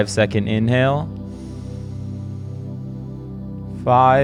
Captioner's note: inhales slowly